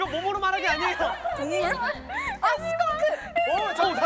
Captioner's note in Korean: 오열